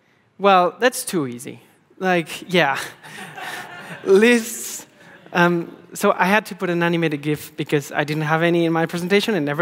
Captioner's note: laughing